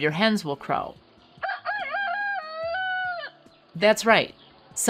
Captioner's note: hen crows